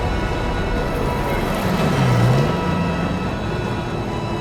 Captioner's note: intense, dramatic music; tank engines whirs; intense, dramatic music